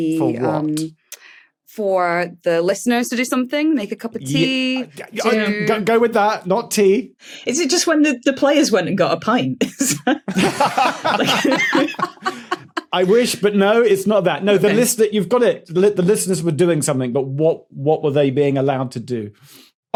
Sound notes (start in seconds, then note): 9.7 group laughing; 9.8 laughs